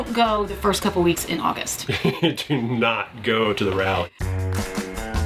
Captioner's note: laughing